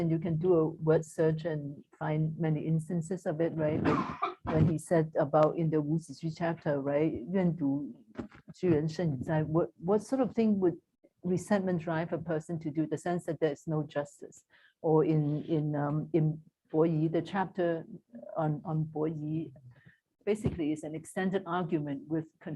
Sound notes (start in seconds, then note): 5.9 non-english; 7.2 non-english speech